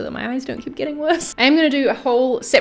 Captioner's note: laughing